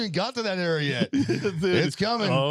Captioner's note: laughing